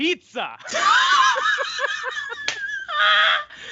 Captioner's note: laughing